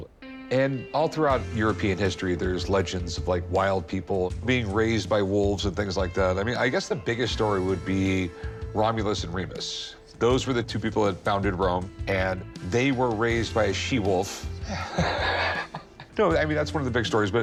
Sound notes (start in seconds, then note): 14.6 chuckles